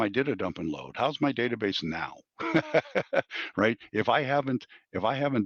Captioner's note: laughs